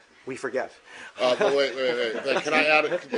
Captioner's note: laughter